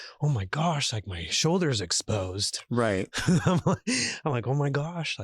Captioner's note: chuckles